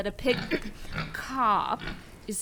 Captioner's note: clears throat